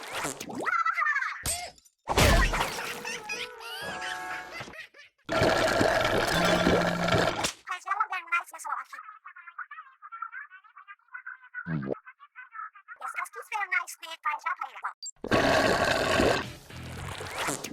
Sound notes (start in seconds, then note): 15.2 slooouuuurrrrp